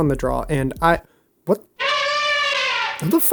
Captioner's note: elephant trumpets